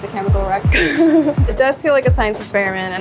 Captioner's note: chuckles